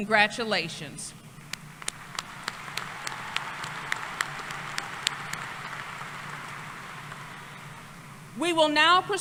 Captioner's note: applause